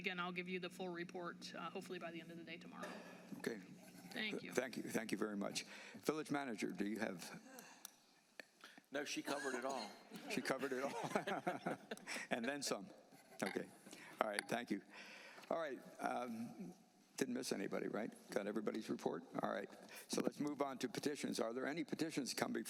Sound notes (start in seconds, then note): 12.2 laughter